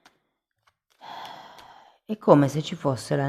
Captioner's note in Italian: sospiri